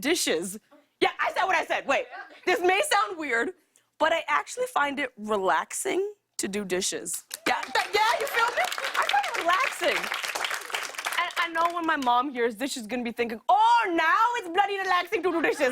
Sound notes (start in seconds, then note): 7.4 light applause